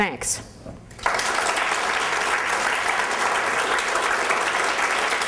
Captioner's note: applause